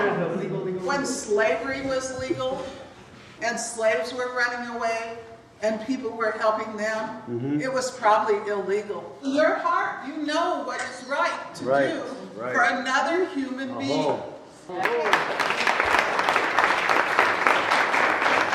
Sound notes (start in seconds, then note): 14.8 group applauds